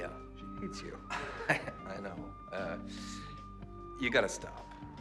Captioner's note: chuckles